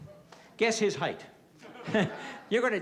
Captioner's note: laughter